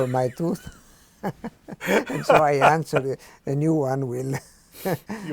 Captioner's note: laughs